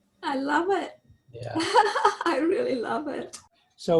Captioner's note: laughs